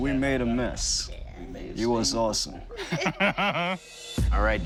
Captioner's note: laughs